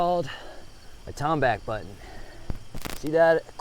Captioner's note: insects chittering